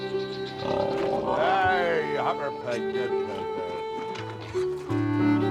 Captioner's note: grunting